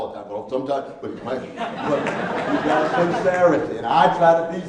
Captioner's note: laughing